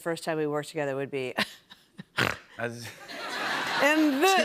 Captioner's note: chuckles, snorts